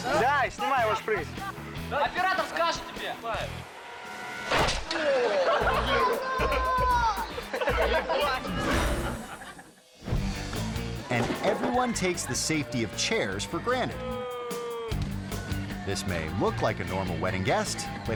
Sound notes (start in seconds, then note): 0.2 speaking in a foreign language; 4.9 friends laughing; 5.6 dramatic music; 7.9 speaking in a foreign language; 8.4 icon whooshing; 9.1 audience laughing; 10.2 air whoosh; 10.2 lively music; 14.6 lively music